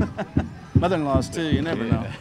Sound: laughing

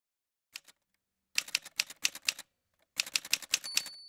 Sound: typewriter sounds

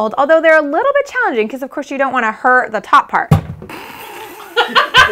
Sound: cupcake falls

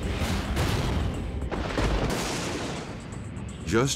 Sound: lightning crashing

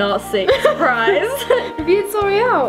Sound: laughter

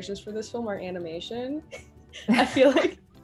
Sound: laugh

